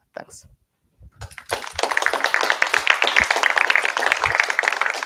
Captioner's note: applause